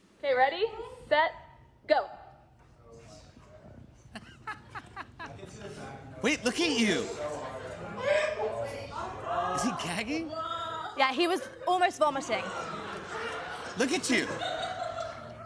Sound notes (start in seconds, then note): 4.1 Jimmy laughs